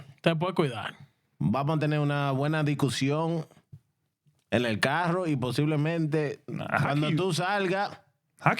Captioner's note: speaking In Spanish